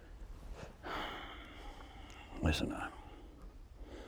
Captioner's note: sighs